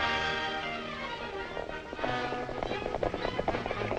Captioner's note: exciting music; horses galloping